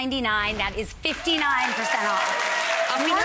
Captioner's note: audience applauds